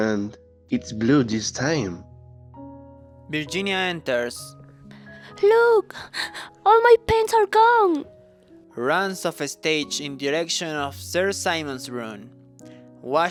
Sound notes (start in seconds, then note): 6.1 crying